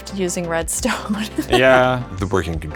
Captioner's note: laughs